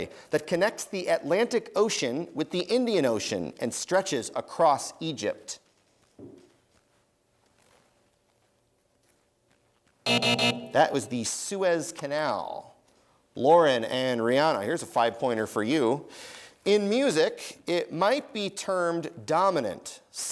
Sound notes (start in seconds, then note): 10.0 buzzing